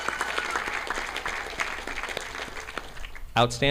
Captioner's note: audience applauding